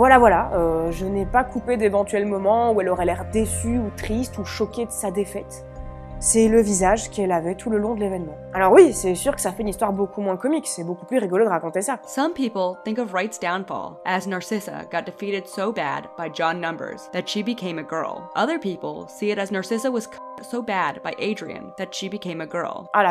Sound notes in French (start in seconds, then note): none